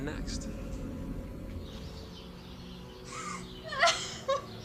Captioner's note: woman sobbing